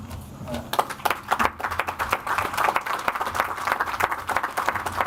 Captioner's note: audience applauds